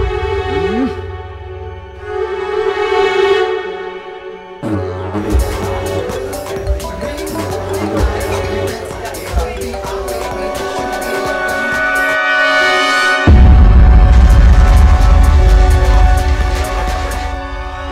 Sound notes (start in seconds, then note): 6.0 phone ringing